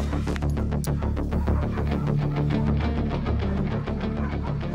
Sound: tense music continues; dogs barks

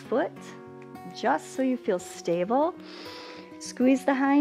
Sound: inhales

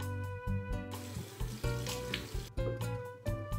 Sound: water running

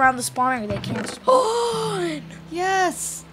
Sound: gasps

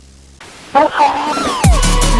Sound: classic Screaming but quieter

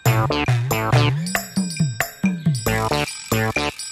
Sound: bell rings

